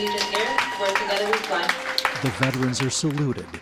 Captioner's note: cheers and clapping